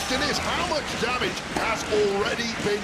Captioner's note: audience cheering